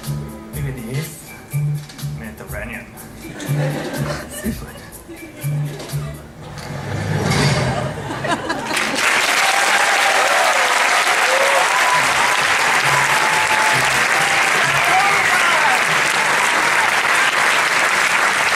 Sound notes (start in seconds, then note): 8.6 applause and cheering; 15.5 applause continues